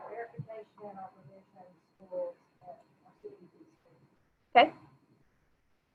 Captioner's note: faintly speaking